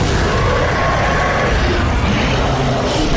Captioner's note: Saddler Dying Noises